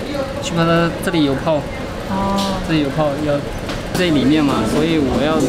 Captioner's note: technician speaking in Chinese